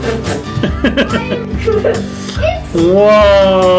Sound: laughing

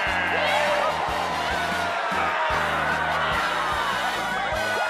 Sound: wild cheering; whooping

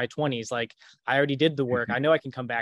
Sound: chuckles

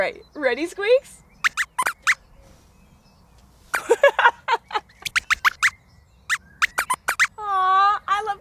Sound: squeaks squeaks

